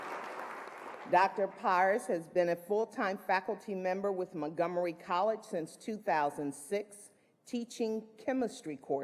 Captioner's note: applause